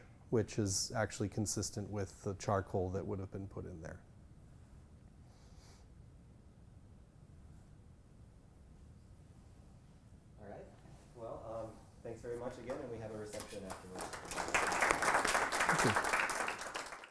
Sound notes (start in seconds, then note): 13.3 applause